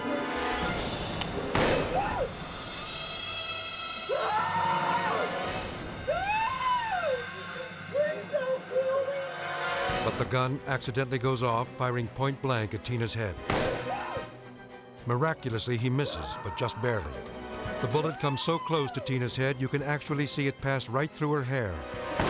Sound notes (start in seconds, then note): 1.5 gunfire blasts; 13.4 gunfire blasts